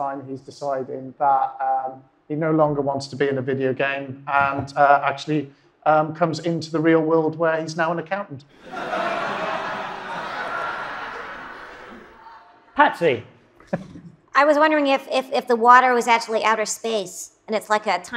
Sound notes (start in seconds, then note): 8.5 audience laughs